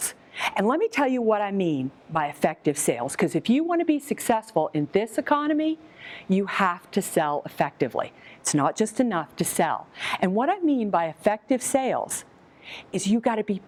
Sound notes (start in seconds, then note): none